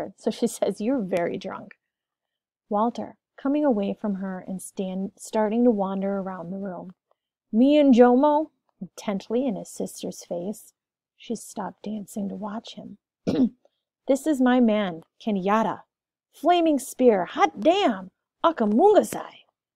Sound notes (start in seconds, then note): 13.2 clears throat